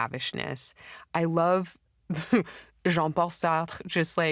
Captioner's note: chuckles